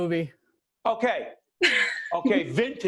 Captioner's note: laughing